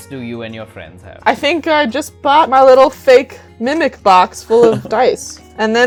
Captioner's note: laughter